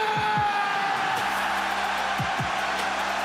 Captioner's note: cheers